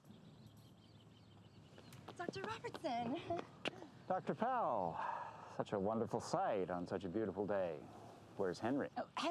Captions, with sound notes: Dr. Robertson! (chuckles) - Dr. Powell. Such a wonderful sight on such a beautiful day. Where's Henry?